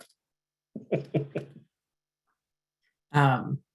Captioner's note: chuckles